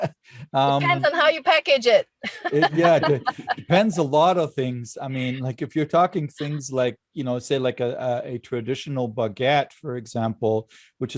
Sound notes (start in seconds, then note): 0.0 laughing; 2.2 laughing